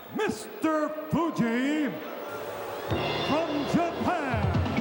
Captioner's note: crowd booing